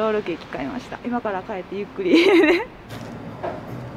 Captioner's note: laughter